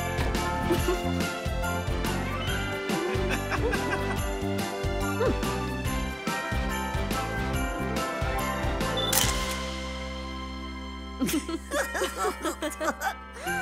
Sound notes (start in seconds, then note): 0.6 chuckles; 3.0 laughing; 9.1 shutter clicking; 11.2 laughing